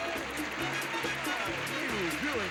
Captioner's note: audience applauding